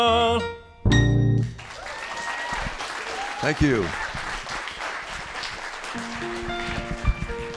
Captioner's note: applause; singing